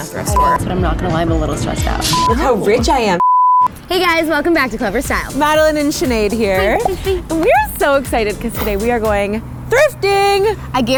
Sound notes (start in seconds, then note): 3.2 beep